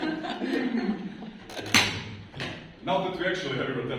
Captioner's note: laughter; a capacitor pops